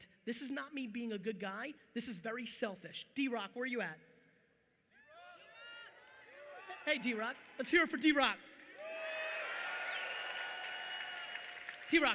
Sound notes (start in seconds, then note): 4.3 audience yelling; 8.7 audience cheering loudly